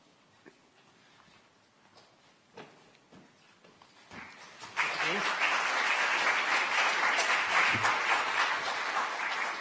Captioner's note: applause